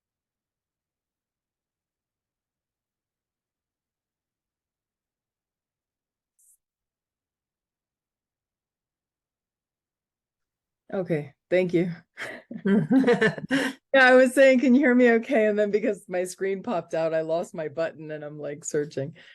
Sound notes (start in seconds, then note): 12.3 laughs